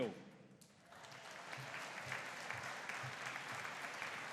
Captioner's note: audience applauding